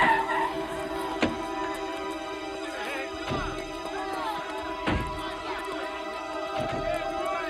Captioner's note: group chattering; doors thudding